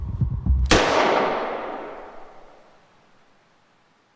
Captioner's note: gunshot fires